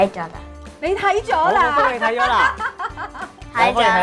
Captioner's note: laughs heartily